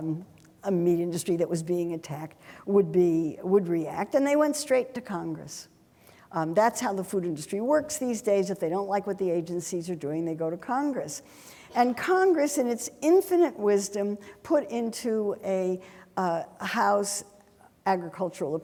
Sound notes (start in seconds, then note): none